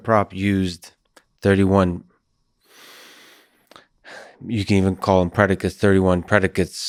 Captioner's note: sighs